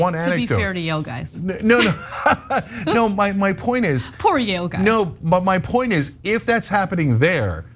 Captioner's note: laugh